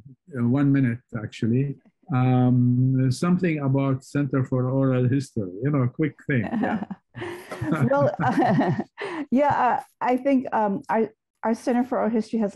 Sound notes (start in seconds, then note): 7.2 laughter